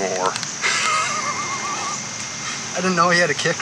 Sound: laughing

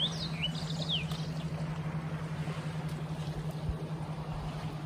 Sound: birds chirp

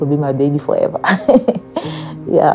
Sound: laughing

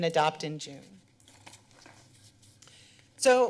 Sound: pause

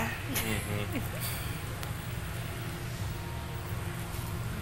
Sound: woman giggling

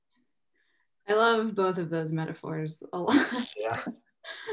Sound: chuckles

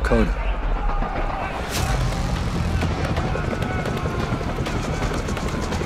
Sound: crowd yelling; helicopter blades spinning

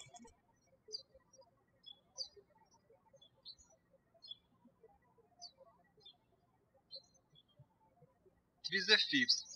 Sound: birds chirping

